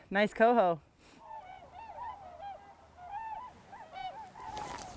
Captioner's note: geese honking